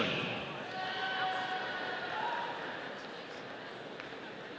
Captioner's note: audience cheering